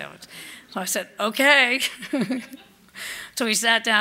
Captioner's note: laughs